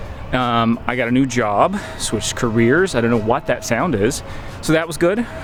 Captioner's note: high pitched sound in the distance